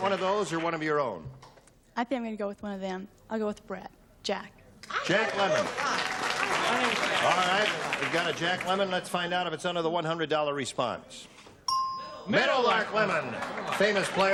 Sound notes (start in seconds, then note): 5.1 applause; 11.6 ding